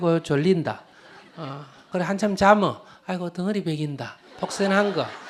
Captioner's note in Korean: 청중 웃음